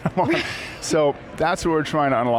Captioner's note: chuckles